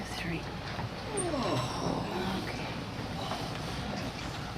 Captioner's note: grunting